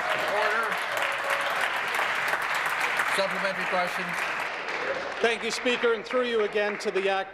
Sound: applause

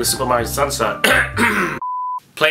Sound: cough

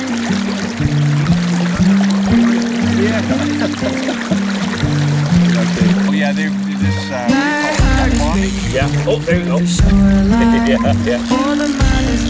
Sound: laughing

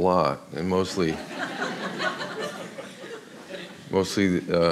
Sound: audience laughs

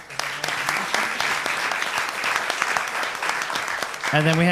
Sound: applause

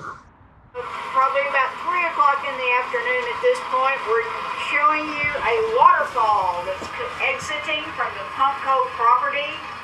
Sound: noise from computer

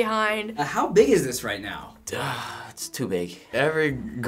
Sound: sighs

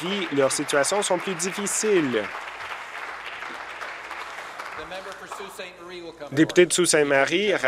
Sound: applause

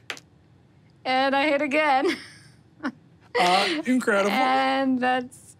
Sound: laughs

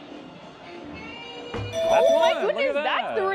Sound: alarm rings

